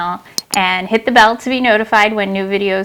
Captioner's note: mouse click